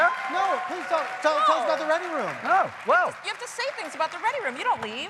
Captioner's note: cheers and applause